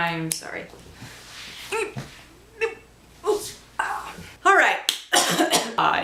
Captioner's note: snaps fingers; scootching noises; coughs